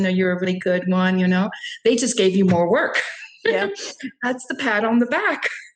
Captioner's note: chuckles